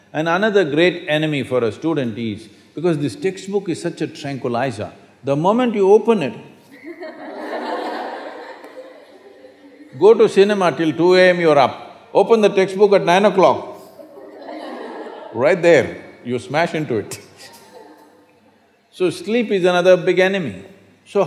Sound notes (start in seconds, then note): 6.7 laughter; 13.9 laughter; 17.4 laughs